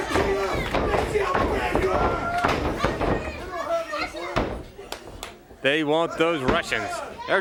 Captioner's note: crowd chatter